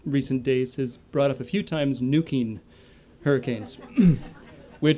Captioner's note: laughter